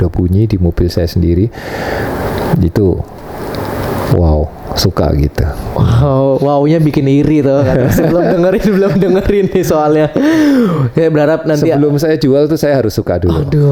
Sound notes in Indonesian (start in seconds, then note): 7.1 tertawa; 10.1 terkesiap